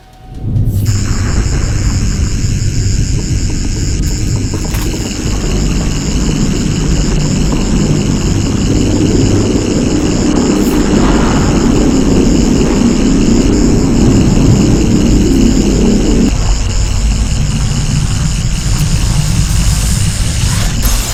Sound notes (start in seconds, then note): 0.9 Sonic screwdrivers activate; 3.1 thundering; 7.8 cracking